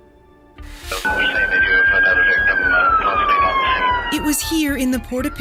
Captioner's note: police sirens wailing